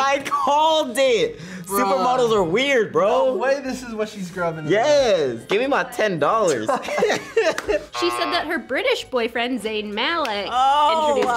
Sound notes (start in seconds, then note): 6.5 both laugh